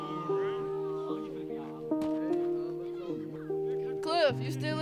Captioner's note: peaceful music; boys chattering